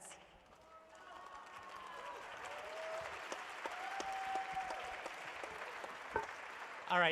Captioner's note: applause